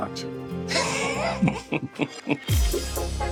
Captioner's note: laughs; upbeat pop music